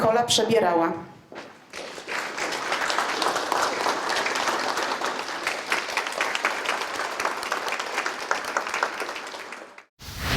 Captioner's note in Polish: oklaski